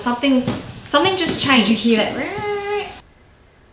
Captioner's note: imitates noise